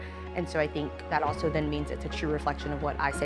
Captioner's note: none